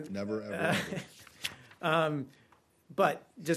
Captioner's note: laughter